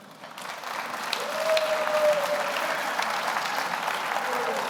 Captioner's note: audience applauds